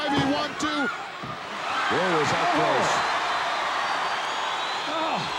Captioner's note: audience cheering